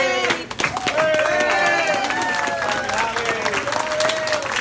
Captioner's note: people clapping